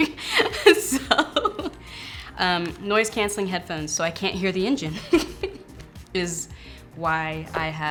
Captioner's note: laughing; laughs